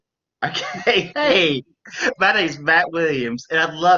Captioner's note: laughs